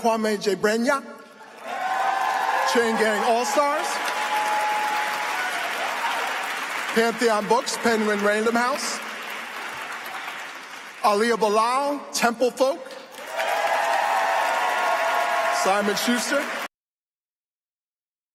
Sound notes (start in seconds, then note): 9.8 applause